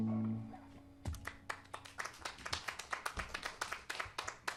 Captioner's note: applause